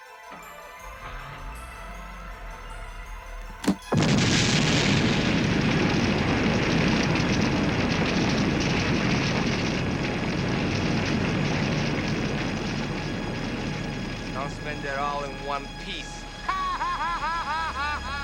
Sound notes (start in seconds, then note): 0.6 car starting; 4.0 booming explosion; 7.5 fire roaring; 16.4 laughing